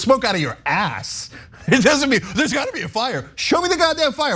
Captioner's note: laugh